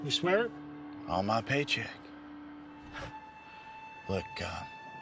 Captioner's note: laughs